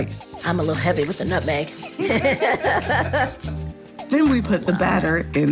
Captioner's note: laughs